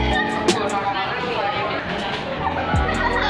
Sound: tee hee

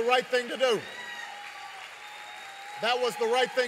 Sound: applause

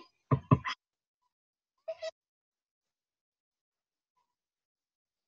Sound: double tap computer

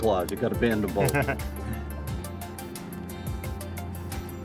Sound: laughs

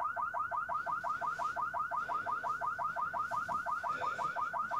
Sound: car alarm blaring

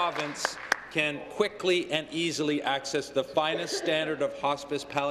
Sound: applause

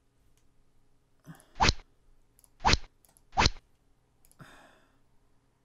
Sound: rod sound

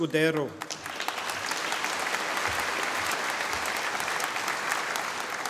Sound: audience applauding

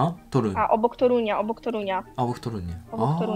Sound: Polish

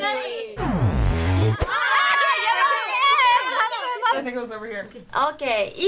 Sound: various exclaiming

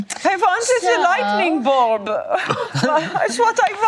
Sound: imitates German accent

